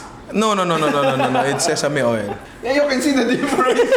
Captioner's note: laughs